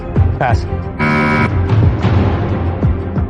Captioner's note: buzzer sounds